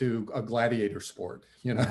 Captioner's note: laughs